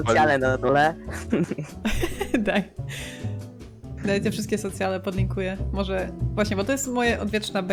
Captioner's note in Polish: śmiech